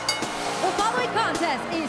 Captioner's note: bell ringing